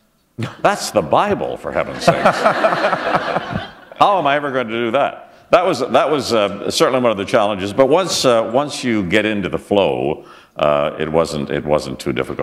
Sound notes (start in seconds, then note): 1.9 laughter